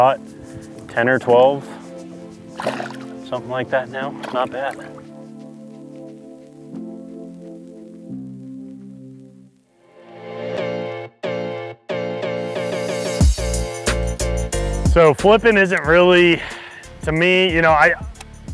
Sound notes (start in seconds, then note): 2.4 water splashing; 11.9 upbeat electronic music